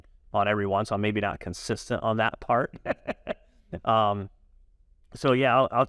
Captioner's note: laughs